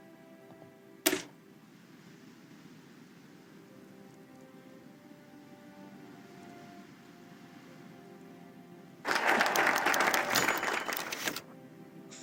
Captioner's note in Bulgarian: Аплодисменти